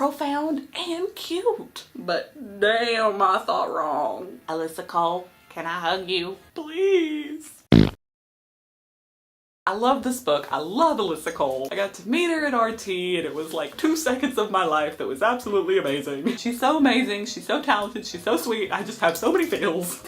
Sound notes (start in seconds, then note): 7.7 fart noise